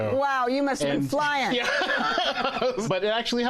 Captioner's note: laughs